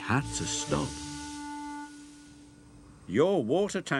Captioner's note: steam sizzling